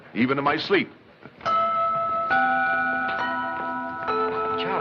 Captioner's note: bells Chiming